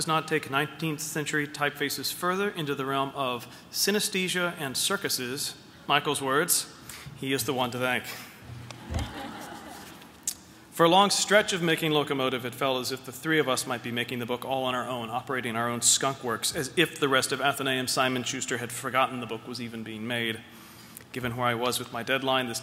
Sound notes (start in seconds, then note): 8.7 laughter